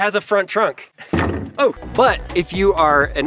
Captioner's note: trunk thuds